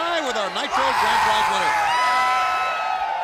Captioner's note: crowd cheering